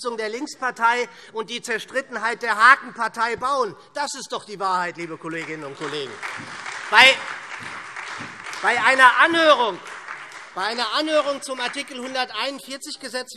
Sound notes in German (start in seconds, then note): 5.1 Beifall SPD und Freie Demokraten